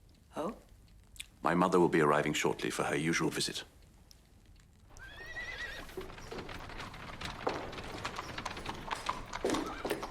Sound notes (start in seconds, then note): 5.0 horse neighing; 8.5 horses trotting